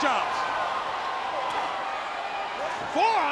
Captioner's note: crowd cheering